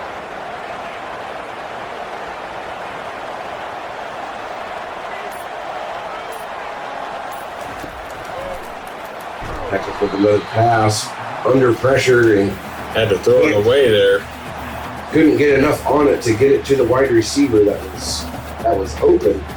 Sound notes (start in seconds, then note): 0.0 crowd Noises